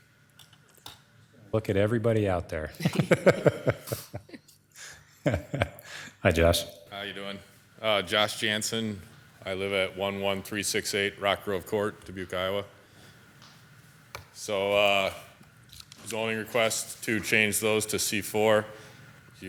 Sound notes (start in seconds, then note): 2.7 all laughing